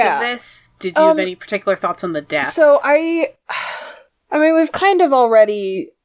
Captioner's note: sighs